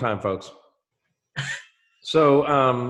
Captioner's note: laughs